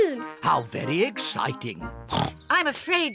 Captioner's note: oinks